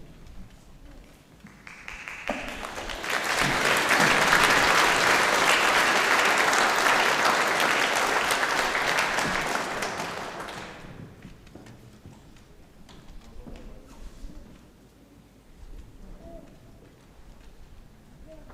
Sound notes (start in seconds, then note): 2.2 audience applauding